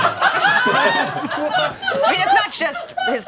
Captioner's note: all laughing